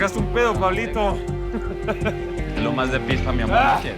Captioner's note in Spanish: Risas